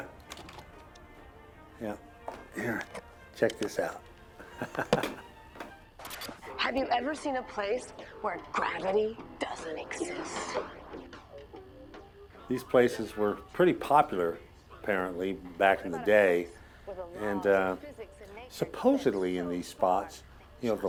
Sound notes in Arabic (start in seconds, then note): 4.3 يضحك